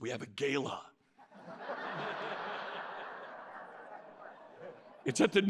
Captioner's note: laughter